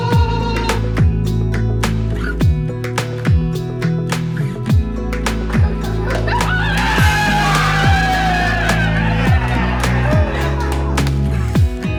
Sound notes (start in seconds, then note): 1.3 gentle music; 6.1 people shouting